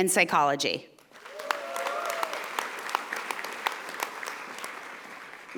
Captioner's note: audience applauding